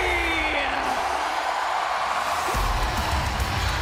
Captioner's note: crowd cheering